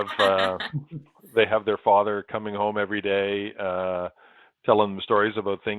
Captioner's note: laughter